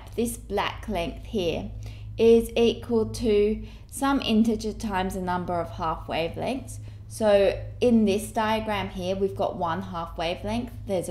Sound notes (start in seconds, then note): none